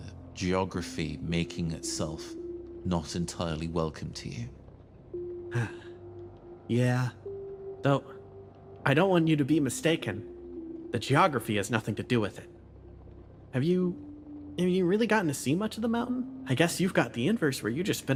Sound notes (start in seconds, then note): 5.5 sigh